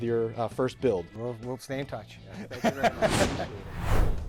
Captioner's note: laughing